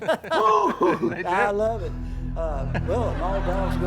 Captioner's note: laughs; laughter